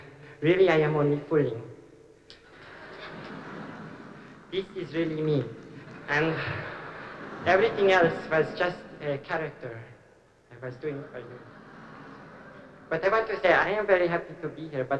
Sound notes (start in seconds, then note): 2.4 laughter